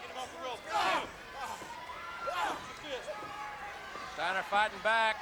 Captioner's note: wrestlers grunting